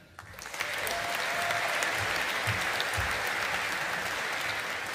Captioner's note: audience applauding